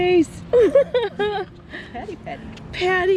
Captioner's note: laughing